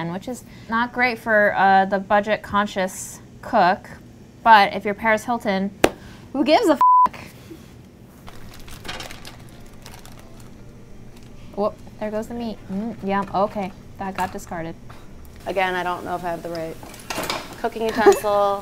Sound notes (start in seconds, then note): 6.8 beep; 8.2 packaging crinkling; 8.7 soft music; 17.8 laughs; 18.3 bell dings